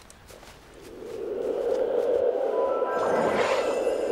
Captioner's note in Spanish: viento silbando; polvo mágico explotando